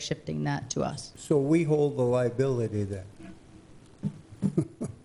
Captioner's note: chuckles